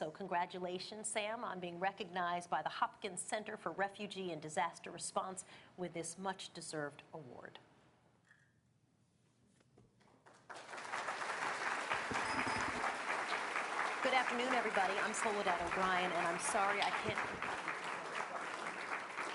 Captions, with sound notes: So congratulations, Sam, on being recognized by the Hopkins Center for Refugee and Disaster Response with this much deserved award. [APPLAUSE] Good afternoon, everybody, I'm Soledad O'Brien. And I'm sorry I can't--